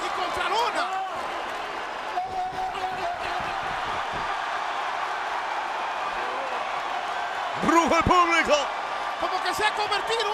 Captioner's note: applause